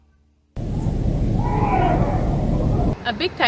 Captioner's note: everyone cheers